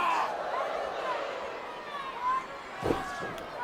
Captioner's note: crowd woos